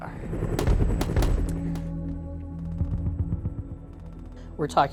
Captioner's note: helicopters rumbling; gunfire rattles